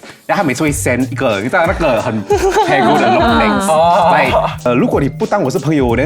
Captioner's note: passive-aggressive